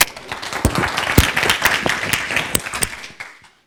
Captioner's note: audience applauds